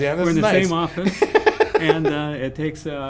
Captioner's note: laughs